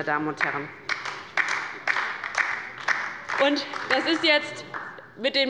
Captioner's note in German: Beifall bei der LINKEN